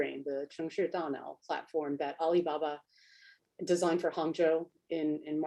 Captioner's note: speaks Chinese